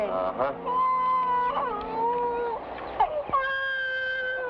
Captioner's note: infant cries